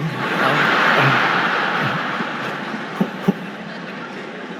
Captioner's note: audience laughing